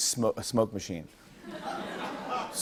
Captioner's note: laughter